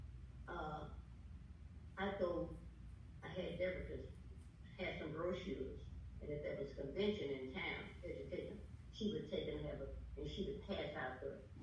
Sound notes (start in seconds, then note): none